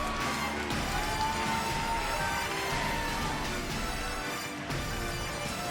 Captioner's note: crowd cheering; dramatic music continues